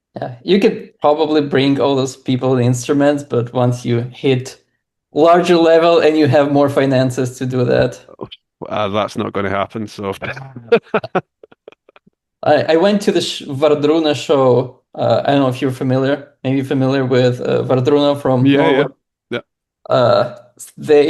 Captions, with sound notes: -You could probably bring all those people and instruments, but once you hit larger level, and you have more finances to do that. -That's not going to happen, so [laughs] -I went to this Wardruna show. I don't know if you're familiar, maybe you're familiar with Wardruna from Norway. -Yeah.